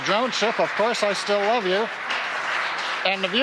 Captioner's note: applause